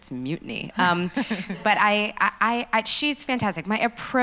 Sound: laughs

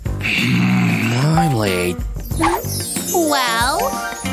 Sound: grumbles

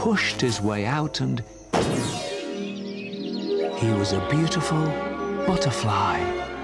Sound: pop

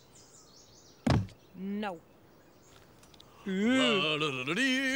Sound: Armstrong thudding; Jake humming

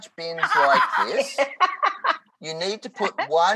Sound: laughing

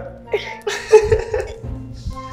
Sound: laughs; makes chicken sounds

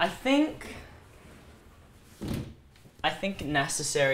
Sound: door slides open

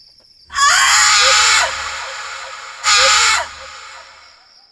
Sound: screams

